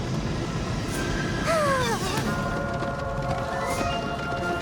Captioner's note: moans